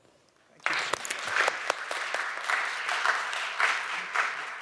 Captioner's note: audience applauding